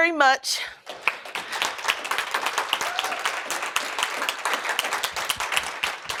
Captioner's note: applause